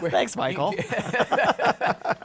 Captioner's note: laughter